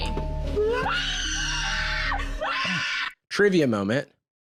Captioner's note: screams